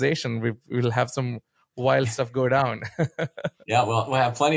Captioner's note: laughs